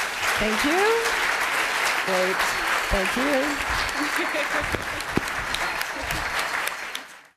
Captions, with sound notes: [applause] Thank you. Thank you. [applause]